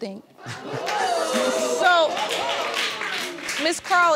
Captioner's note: audience cheering